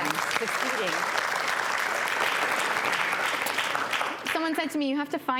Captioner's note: audience applause